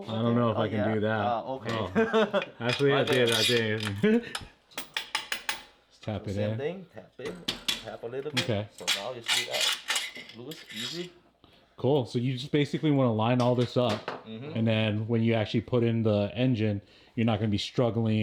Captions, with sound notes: I don't know if I can do that. Okay. (laughing) Actually, I did, I did. (hammering) Just tap it in. Same thing, tap in. Tap a little bit. So now you see that loose, easy. Cool, so you just basically wanna line all this up. And then when you actually put in the engine, you're not gonna be struggling